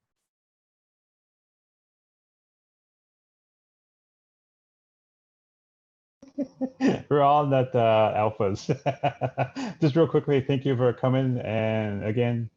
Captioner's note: laughs